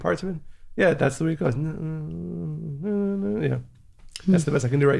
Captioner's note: hums